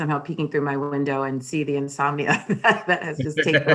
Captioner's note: laughing